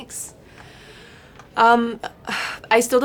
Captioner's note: sighs